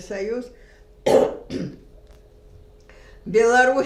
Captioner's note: coughing